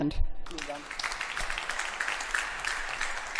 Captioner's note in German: Beifall